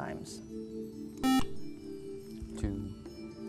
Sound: buzzer

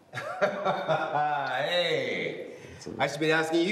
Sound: laughing

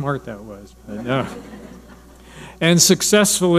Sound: audience laughing

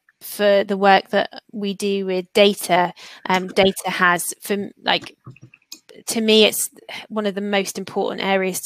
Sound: erm

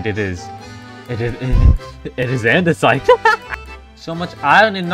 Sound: laughs

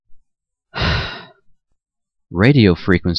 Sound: sigh

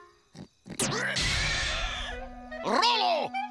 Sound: rolo squealing

